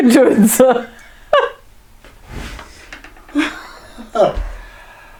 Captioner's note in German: lacht